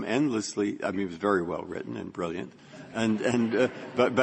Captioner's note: laughter